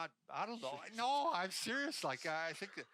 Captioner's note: laughing